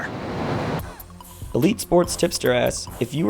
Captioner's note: voiceover